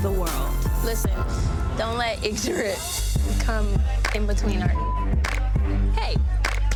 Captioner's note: beep